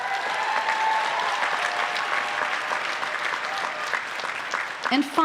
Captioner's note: applause